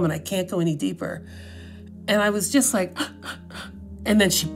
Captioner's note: inhale, inhale